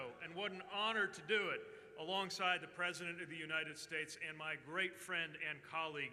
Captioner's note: cheers